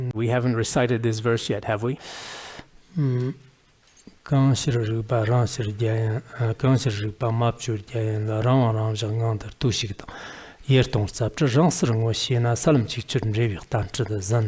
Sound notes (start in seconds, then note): 2.0 giving oral transmission in Tibetan